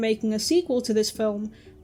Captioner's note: none